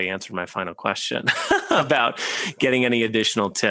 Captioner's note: laughing